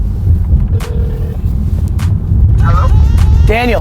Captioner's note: phone rings